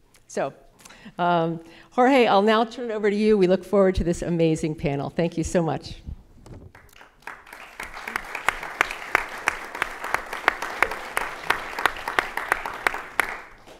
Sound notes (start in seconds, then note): 6.7 audience applauding